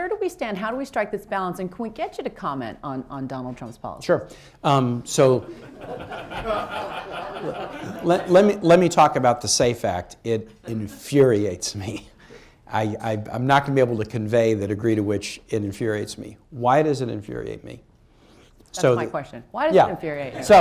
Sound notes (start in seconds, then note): 5.4 laughter; 20.1 laughter